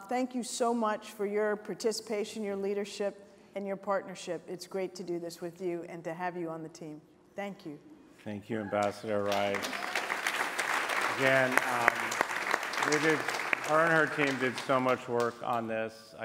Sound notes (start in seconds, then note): 8.7 applause